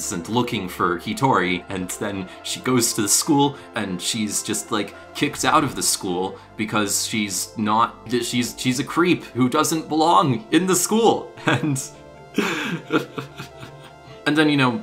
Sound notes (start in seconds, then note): 12.4 laughs